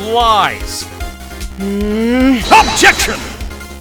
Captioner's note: growling